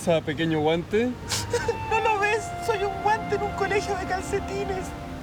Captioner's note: sob